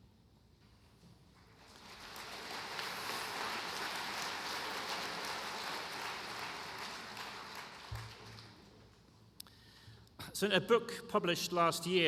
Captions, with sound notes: FOR TAKING CARE OF ME OVER THESE LAST TWO DAYS. [ APPLAUSE ]